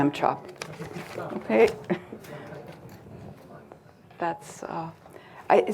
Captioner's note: crowd lightly laughing